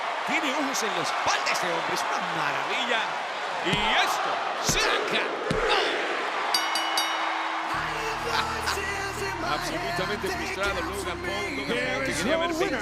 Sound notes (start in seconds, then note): 6.6 applause; 8.2 laugh